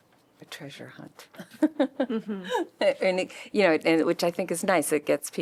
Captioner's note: laughter